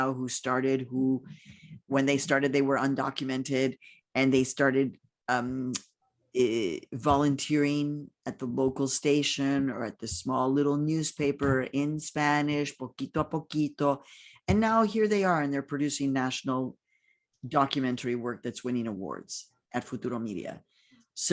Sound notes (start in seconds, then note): 12.9 speaking in foreign language